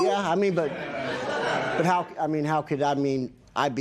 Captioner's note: laughter